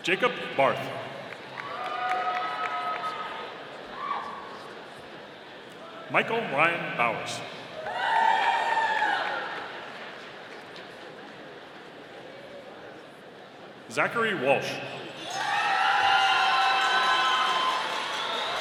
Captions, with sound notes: Jacob Barth. (audience applauding) Michael Ryan Bauers. (audience cheering) Zachary Walsh. (audience cheering)